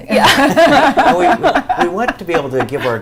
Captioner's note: laughter